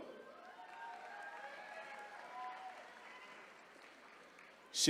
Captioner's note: attendees cheering